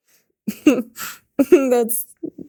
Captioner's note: Mikaela laughing